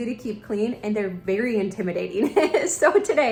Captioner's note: laughing